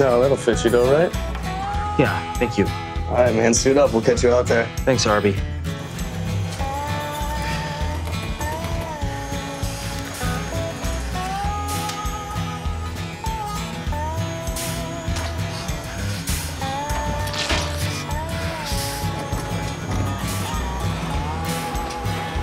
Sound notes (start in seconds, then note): 5.6 guitar music; 8.7 whirring sounds; 17.2 squirt sounds; 18.2 guitar music